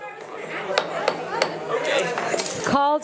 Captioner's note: gavel thudding